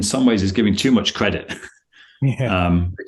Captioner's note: laughs